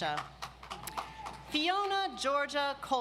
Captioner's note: audience applauds